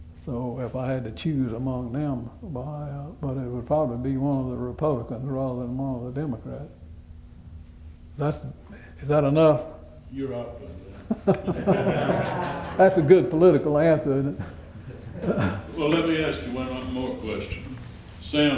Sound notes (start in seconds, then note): 11.0 laughter